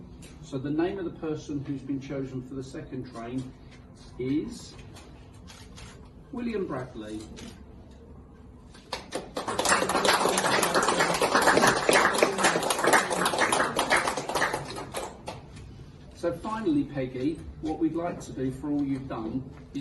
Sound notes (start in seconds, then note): 8.8 applause